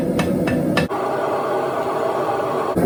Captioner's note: sizzling